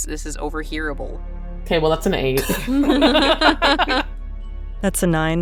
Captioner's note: laughs